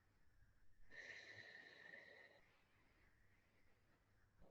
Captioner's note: exhales heavily